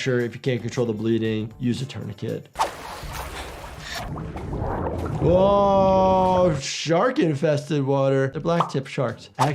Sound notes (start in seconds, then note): 2.6 water sloshes